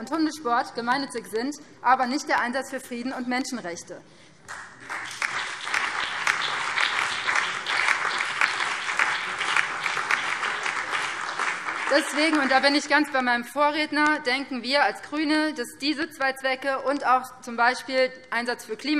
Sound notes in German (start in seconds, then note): 4.4 Beifall BÜNDNIS 90/DIE GRÜNEN, SPD, DIE LINKE und vereinzelt CDU